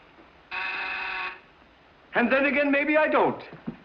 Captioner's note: doorbell buzzes